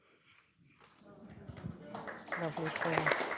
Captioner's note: applause